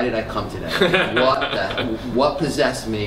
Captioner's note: laughter